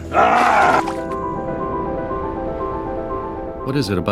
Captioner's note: Satan groaning